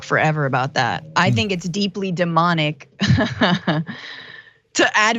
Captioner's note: laugh